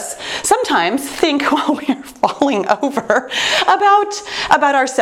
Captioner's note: laughs